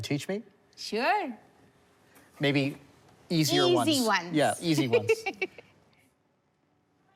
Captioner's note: laughs